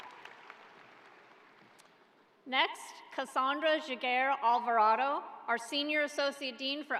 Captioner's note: applause